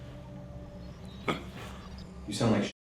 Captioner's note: choking sounds